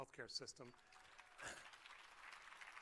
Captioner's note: applause